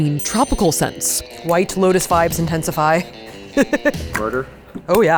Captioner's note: laughs